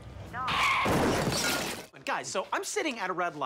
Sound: car crashes

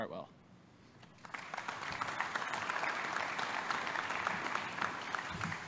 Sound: applause

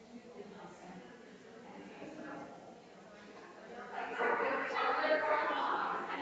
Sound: people chattering distantly continues

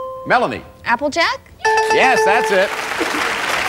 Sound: dinging; applause

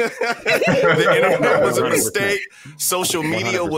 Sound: laughing

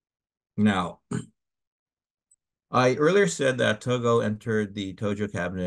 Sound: cough

